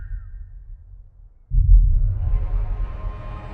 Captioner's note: boom